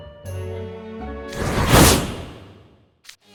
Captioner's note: whoosh!